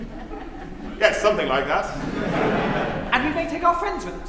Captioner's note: laughter